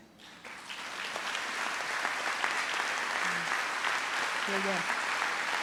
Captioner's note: trustees and audience applaud